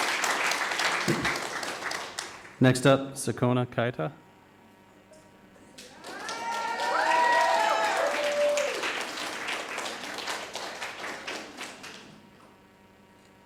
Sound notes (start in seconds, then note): 5.8 audience applauding; 5.8 cheering